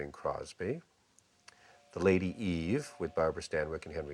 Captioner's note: train whistle blows